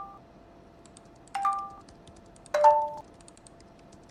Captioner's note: notification sound; sounds of a overheating computer, clicking and typing, from the left